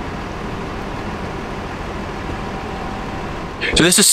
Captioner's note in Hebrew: צליל מנוע